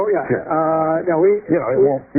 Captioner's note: laughter